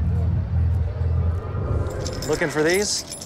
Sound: keys jangling

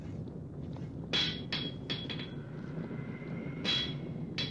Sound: banging

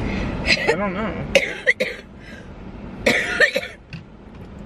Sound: coughing

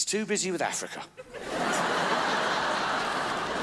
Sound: crowds laugh

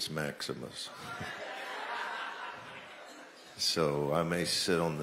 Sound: laughter

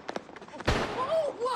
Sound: gun shots

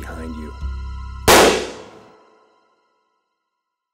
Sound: gun firing

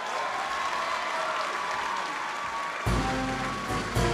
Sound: applause and cheering

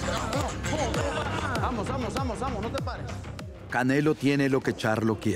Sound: gruñidos

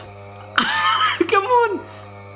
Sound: laughs

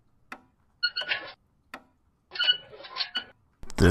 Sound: wheels squeaking

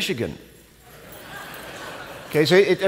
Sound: laughter

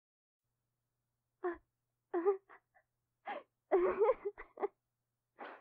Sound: Jenny sobs in the distance

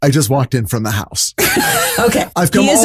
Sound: laughing

